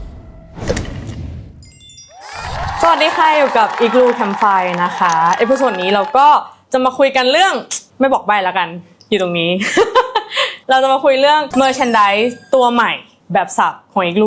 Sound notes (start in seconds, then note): 4.6 laughs